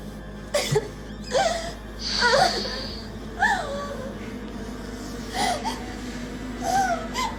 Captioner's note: Lindsay whimpering; Robert sniffing